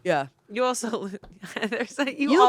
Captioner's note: laughs